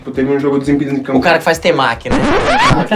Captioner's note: risos